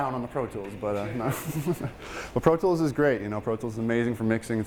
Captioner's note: laughing